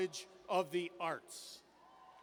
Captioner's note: cheers